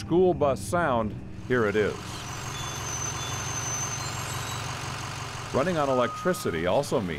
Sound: diesel bus in yard

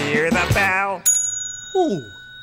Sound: bell

